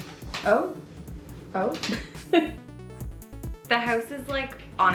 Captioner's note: laughing